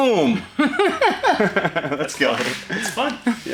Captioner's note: both Laugh